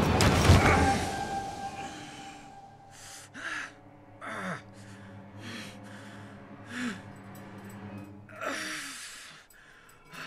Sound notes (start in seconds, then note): 0.6 pained grunt; 1.9 music drops out